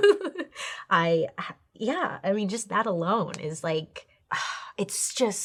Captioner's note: laughs; sighs